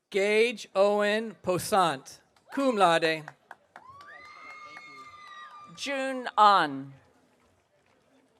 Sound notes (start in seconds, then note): 3.8 audience cheering